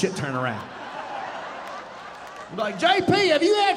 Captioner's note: audience laughing